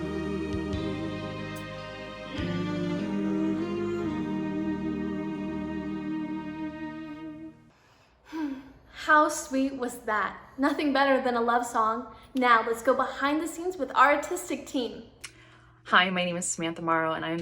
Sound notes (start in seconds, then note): 8.2 sighs